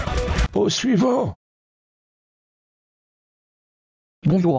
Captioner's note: silence